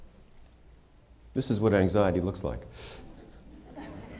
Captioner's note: laughter